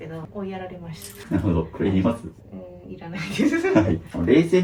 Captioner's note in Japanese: 笑い